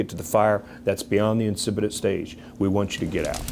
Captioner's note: fire crackles